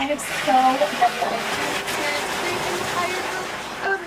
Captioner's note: hand dryer noise